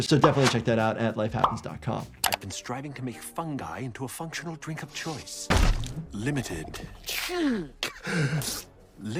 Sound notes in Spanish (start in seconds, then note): 6.1 el Doctor Eggman escupe